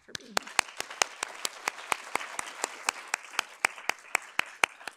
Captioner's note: audience applauding